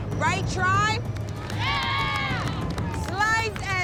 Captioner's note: cheering